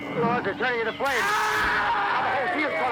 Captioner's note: scream